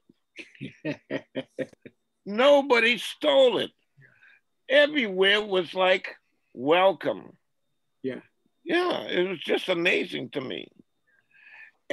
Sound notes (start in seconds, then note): 0.4 man laughs